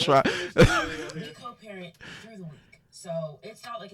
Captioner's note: laughs